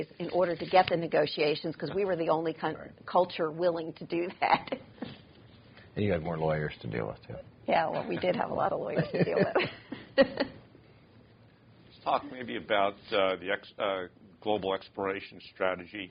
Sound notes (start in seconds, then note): 8.8 laughs